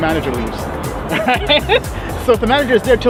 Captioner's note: laughter